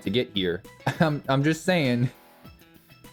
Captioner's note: chuckle